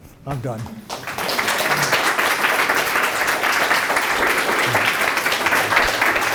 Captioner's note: applause